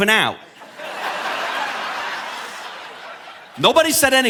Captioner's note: audience laughing